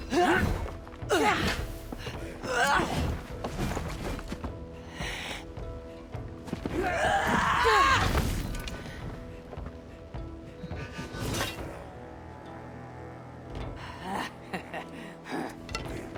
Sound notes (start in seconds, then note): 13.8 laughs